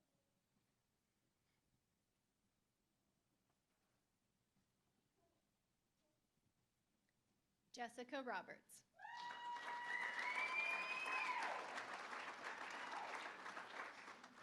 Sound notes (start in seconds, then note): 9.0 cheering; 9.0 applause